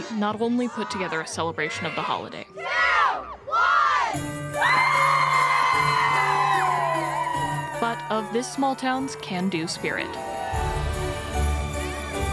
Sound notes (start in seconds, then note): 4.2 bright music; 4.5 crowd cheering; 10.4 bright festive music